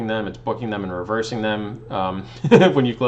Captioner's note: laughs